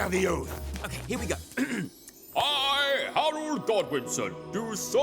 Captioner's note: clears throat